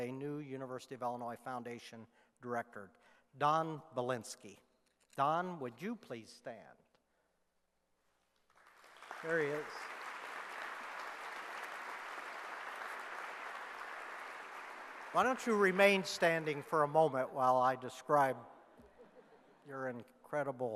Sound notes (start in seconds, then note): 8.4 clapping